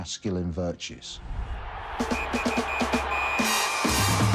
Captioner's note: crowd cheers